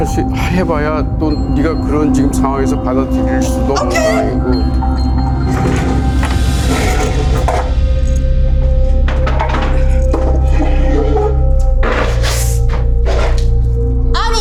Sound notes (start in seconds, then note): 0.1 speaking Korean; 6.6 chair screeches; 10.8 chair clatters